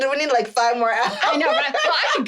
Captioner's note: laughing